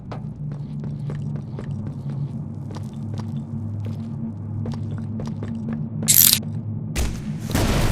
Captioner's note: gunfire